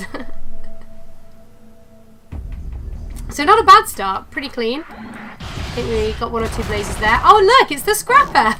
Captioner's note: laughs